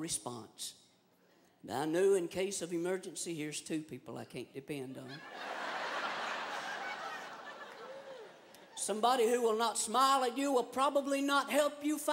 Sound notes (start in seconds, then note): 5.0 laughter